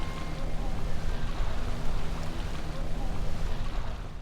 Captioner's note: waves splashing